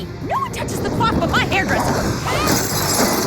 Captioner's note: groaning